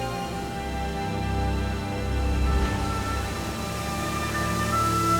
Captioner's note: none